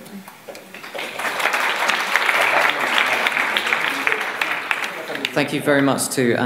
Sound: applause

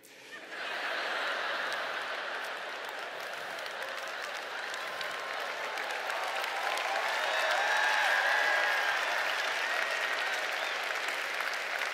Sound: laughter

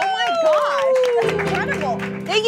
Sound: all cheering

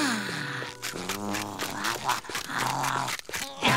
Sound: chomping

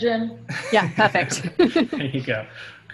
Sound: laughs

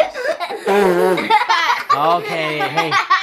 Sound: laughing; blowing

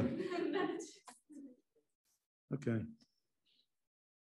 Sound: students laugh

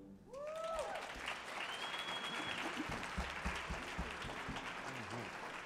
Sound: audience cheers and applauds

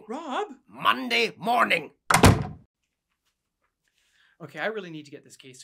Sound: door slams

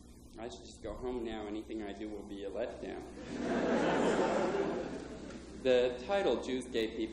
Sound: laughter

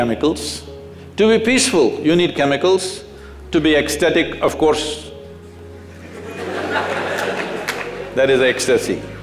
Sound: laughter

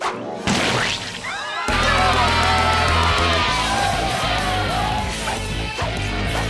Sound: clamoring

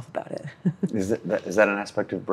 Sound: laughs

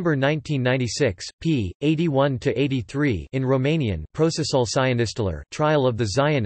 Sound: in Romanian

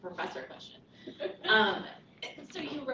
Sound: laughter

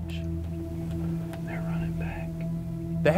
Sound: whispering

